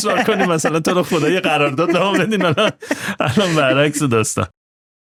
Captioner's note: laughs